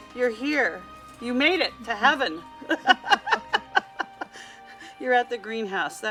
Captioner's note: laughs